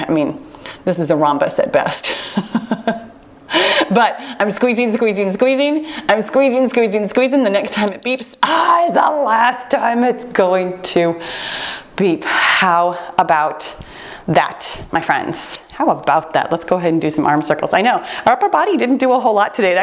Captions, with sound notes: I mean, this is a rhombus at best (chuckles). But I'm squeezing, squeezing, squeezing. I'm squeezing, squeezing, squeezing the next time it beeps. (timer beeps) Ah, is the last time it's going to beep! How about that? My friends. (timer turns off) How about that? Let's go ahead and do some arm circles. I know, our upper body didn't do a whole lot today.